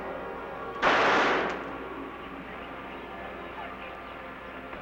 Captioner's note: gun firing